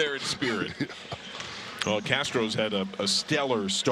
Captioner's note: laughter